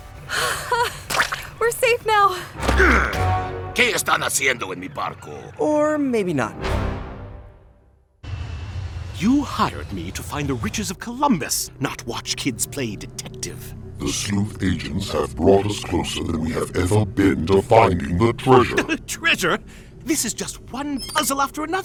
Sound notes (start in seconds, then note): 3.6 captain speaking spanish